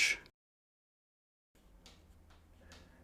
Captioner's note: silence